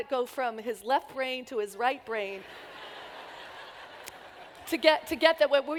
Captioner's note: laughter